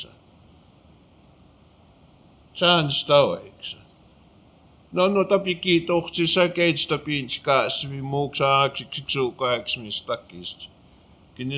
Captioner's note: speaking Blackfoot